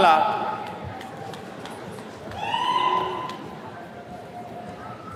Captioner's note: attendee clapping